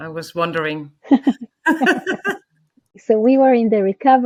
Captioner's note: women laughing